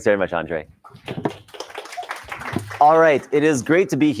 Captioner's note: applause